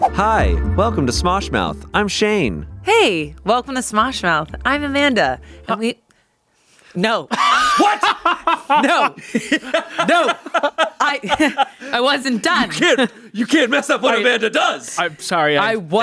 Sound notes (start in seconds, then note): 7.3 laughs; 10.2 everyone laughs